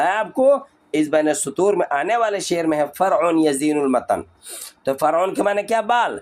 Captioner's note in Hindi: नाक से की जाने वाली आवाज़